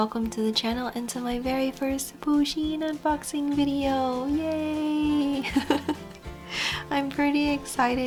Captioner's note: awkward laughing